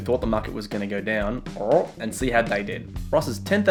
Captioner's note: grunts